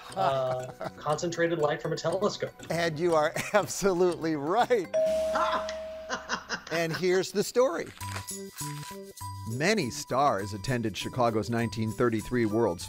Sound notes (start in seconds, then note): 4.9 bell dinging; 6.2 laughing